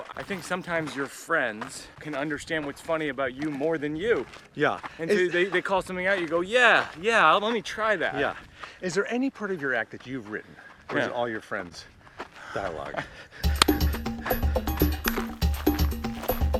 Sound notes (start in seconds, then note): 13.4 Mike laughs; 13.4 funky music